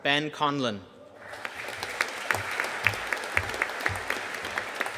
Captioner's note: audience applauding